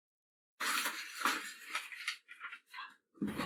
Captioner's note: paper rustling